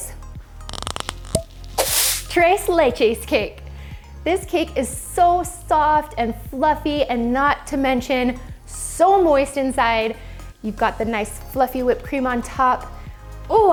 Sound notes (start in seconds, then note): 0.6 gear cranking; 1.3 bubble popping; 1.8 whip whipping